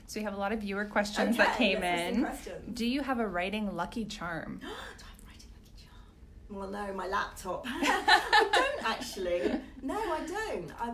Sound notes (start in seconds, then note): 5.4 gasps; 7.8 laughing